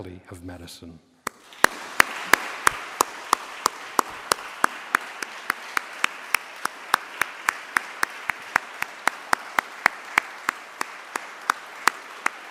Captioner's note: applause